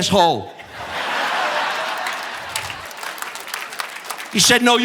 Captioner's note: audience laughing; audience applauding